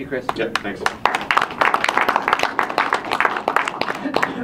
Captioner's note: audience applauding